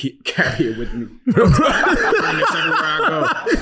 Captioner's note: laughing